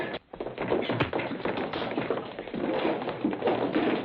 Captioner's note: punching